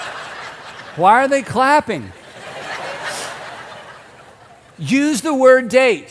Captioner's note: audience laughing